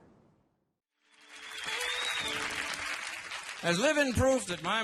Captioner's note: audience applauding